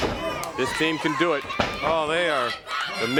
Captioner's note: crowd chatter